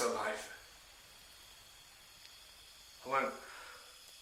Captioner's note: gas hissing